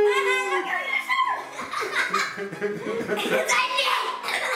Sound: all laughing

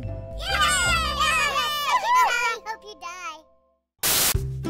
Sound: villager children cheering

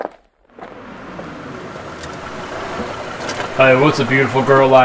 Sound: engine revving

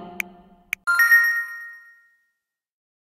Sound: ding!

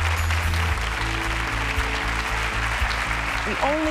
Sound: applause

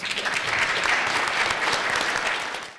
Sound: applause

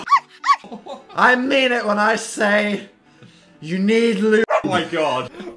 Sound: dog barking

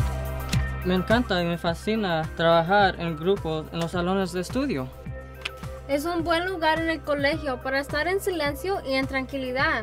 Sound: speaking in Spanish

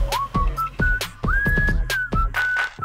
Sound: whistling

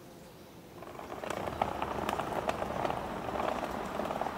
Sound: basket rumbles

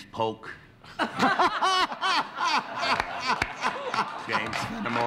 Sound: laughter

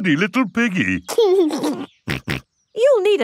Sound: giggles and snorts

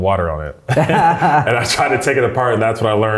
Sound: both laughing

